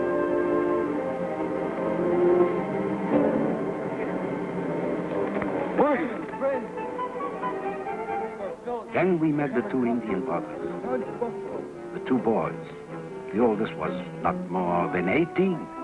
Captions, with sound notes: (tense music) (speaking in foreign language) Then we met with two Indian partners, the two boys. The oldest was not more than 18,